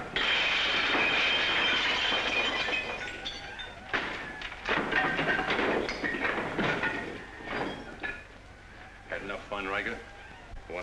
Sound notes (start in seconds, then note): 0.0 glasswear breaking; 3.8 objects breaking